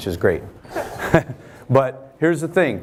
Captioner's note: laughing